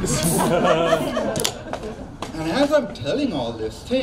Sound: crowd laughs

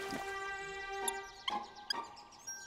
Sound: squeaking

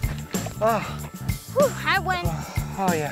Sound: panting

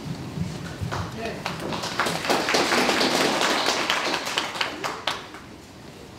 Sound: applause

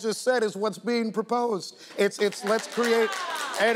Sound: audience applauding

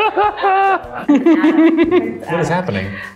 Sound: cracking up; joins the laughter

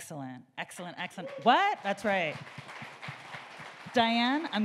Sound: audience applauding

